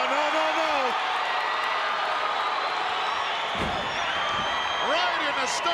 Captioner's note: crowd cheering